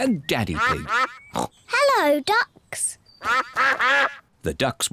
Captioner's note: snorts; ducks quack